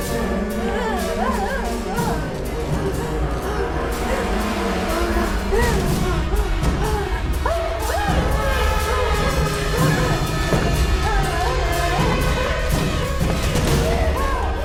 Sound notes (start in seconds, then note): 1.4 groaning; 8.6 yelps; 11.8 dramatic music